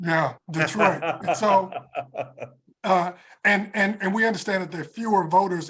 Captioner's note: laugh